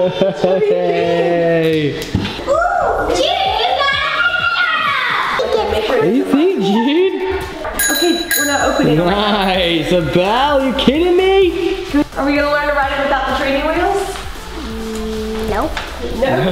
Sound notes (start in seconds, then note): 7.8 rings bell on bike